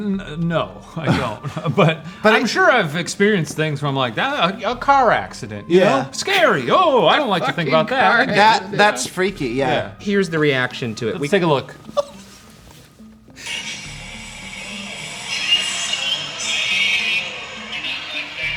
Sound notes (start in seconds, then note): 8.1 laughs; 11.9 laughs; 13.9 video plays on phone